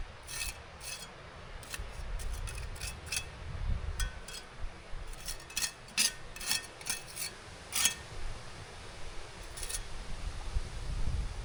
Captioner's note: wind blowing